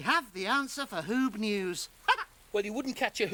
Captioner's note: chuckles